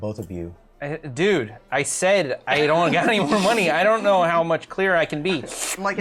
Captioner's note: slurps